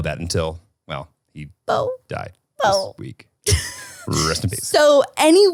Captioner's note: mimics yelping